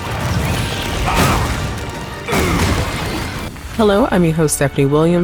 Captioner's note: suspenseful music; Immortal grunts